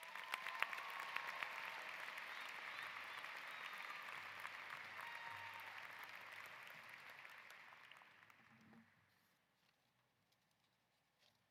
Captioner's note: applause